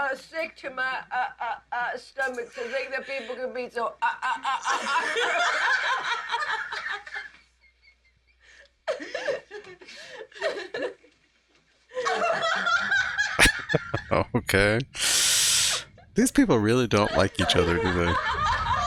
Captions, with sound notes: [Chuckling] Okay. Sheesh. These people really don't like each other, do they?